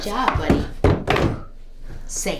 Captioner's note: books dropping